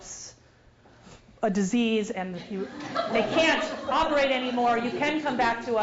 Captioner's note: laugh